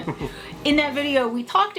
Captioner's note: laughing